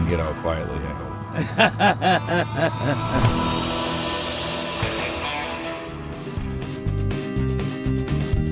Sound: laughs

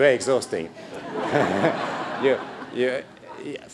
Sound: laughter

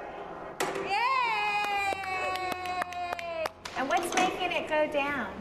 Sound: thud of wood; group cheering and clapping

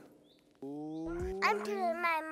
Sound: male Voice; childish Voice

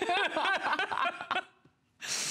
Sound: laughter

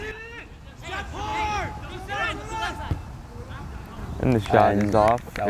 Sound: players talking and yelling

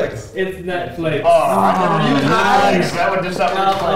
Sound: aaaaawwwww

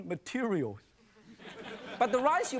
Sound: audience laughing

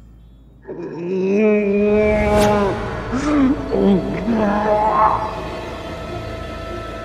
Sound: groaning

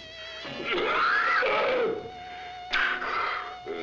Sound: yelling

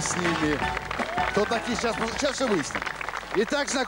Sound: applause

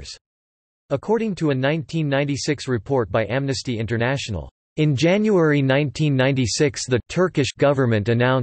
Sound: Turkish

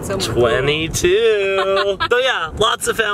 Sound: laughing

